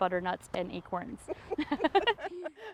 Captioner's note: laugh